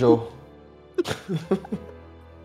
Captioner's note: laughs